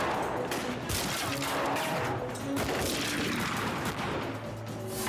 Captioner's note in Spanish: continúa la balacera